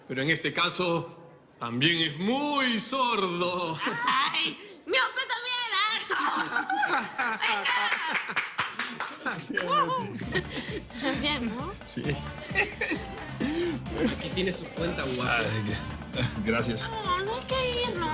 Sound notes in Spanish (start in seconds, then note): 5.9 Risas; 7.4 Aplausos